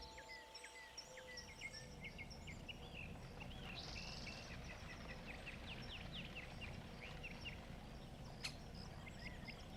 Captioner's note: birds chirping